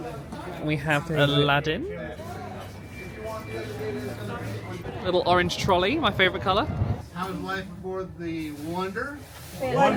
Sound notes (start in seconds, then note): 2.7 people talking